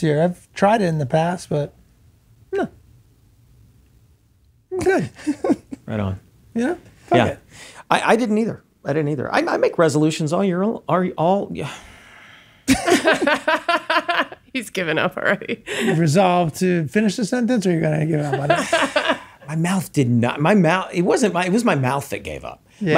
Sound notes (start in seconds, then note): 10.7 stammers; 12.7 all laughing